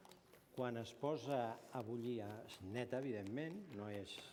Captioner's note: non-english speech